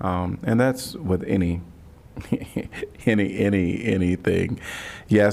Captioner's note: laughter